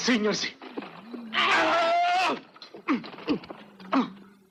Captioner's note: grunting